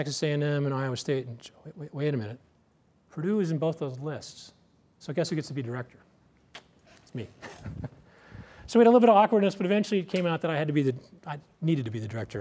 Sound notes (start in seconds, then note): 7.4 laughs